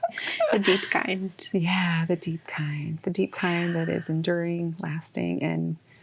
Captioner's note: sigh